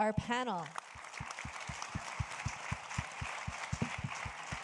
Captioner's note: audience applauding